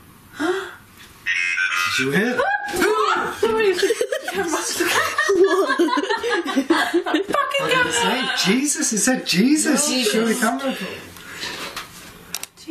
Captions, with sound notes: (gasping) (voice from Ovilus) (laughing) - That fucking camera! - What did it say? Jesus, it said Jesus, show it to camera Paul.